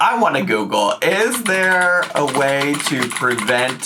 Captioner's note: keyboard clacking